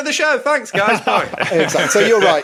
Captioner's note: laughs